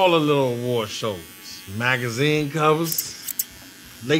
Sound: scissors clicking

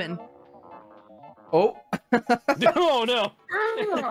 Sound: laughing

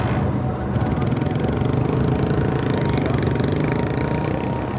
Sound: motorcycle roars

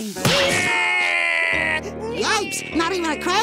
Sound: crying

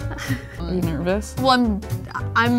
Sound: laughs nervously

